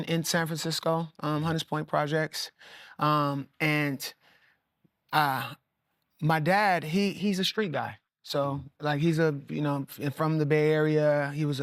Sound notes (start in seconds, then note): none